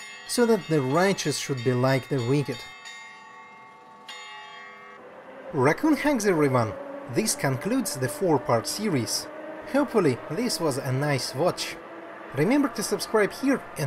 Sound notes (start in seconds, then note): 2.8 church bells ringing